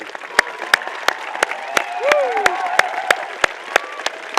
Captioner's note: applause